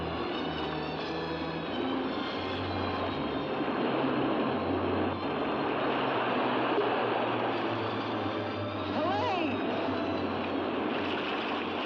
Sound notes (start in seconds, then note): 0.1 suspenseful music; 2.8 waves crashing; 4.3 suspenseful music; 9.9 water crashing